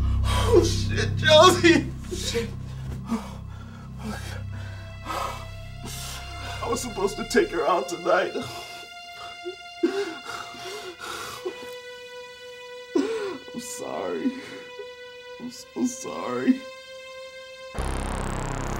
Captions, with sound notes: - Oh shit, Josie! I was supposed to take her out tonight. (Ricky cries) I'm sorry. I'm so sorry.